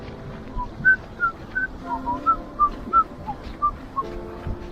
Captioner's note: whistling